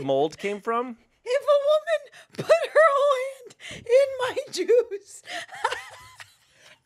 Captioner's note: laughs